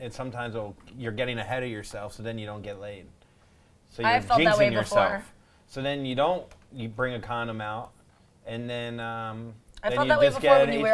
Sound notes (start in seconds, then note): none